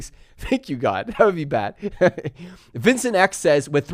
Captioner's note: laughs